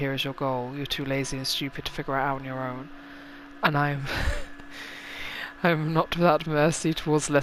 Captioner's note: laughs